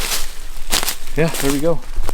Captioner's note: leaves rustling